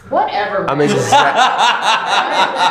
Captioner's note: laughing